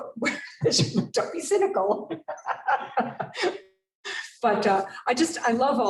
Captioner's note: laughs